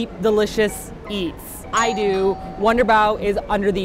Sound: doorbell

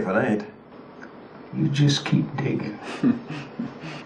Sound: snicker

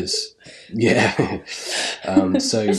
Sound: laughing

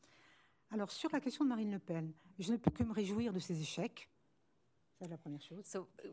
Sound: speaking french

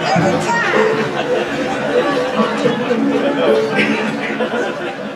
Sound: laughing

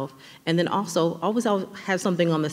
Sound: none

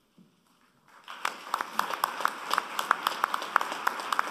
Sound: applause

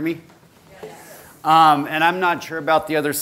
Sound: voiceover

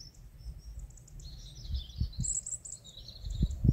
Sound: bridsong

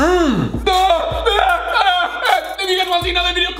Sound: gagging; screaming

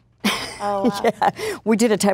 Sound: laughing

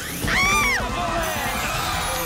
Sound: screams

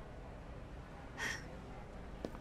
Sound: sighs

